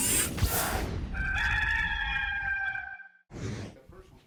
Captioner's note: rooster crowing